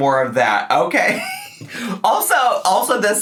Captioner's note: laughing